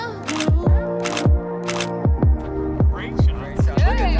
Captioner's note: shutter clicks